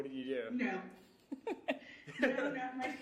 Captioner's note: giggling